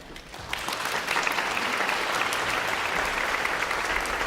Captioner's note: audience applauding